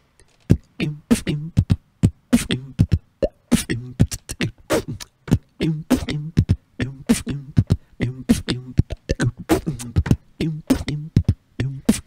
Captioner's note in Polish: beatbox